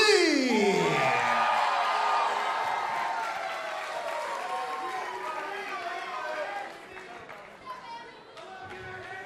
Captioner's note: crowd cheering; crowd chatter